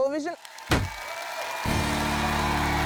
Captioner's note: cheering, applause